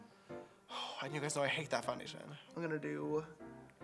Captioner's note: sigh